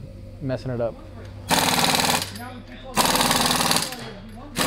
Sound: people chatting

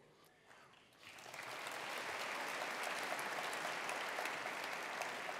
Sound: attendees applauding

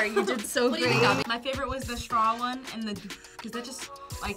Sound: blows

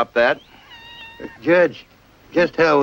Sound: cat mewing

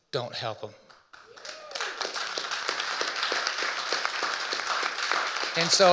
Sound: audience cheering and applauding

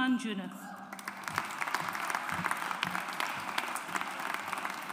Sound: audience applauds

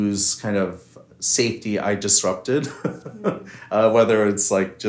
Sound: laughs

